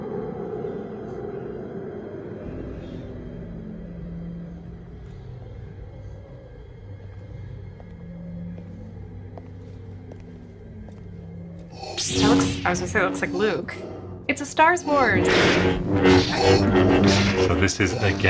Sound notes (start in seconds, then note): 9.9 footsteps; 11.9 lightsaber swings; 12.1 Darth Vader breathes; 14.9 lightsabers clashing; 16.0 Darth Vader breathes